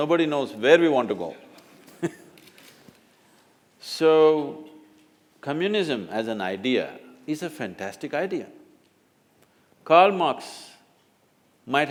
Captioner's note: laughs